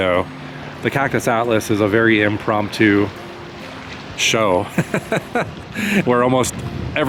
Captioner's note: laughter